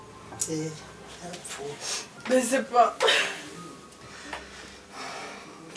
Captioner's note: crying